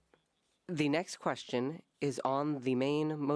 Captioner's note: speaking French